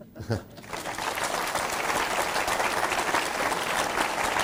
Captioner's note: applause